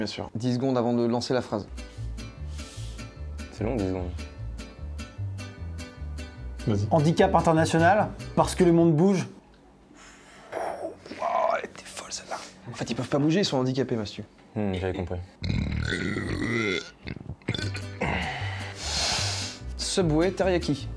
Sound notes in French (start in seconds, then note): 11.2 chuchote